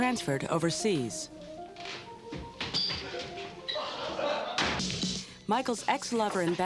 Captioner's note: footsteps and laughing